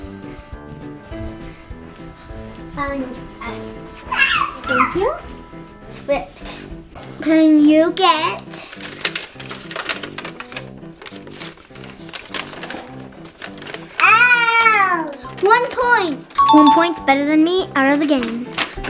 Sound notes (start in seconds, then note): 4.1 child yelling; 14.0 child yells